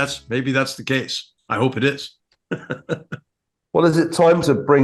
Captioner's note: laugh